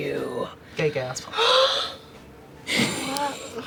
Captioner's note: gasps; laughs